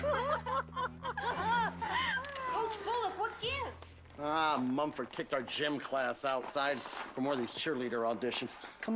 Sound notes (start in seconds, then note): 1.7 sniggering